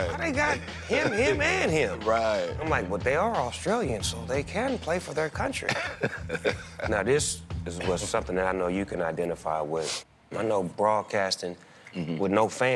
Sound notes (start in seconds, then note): 5.7 laughs